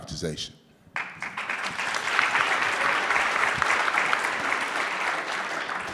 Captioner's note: audience clapping